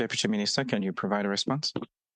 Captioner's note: speaking French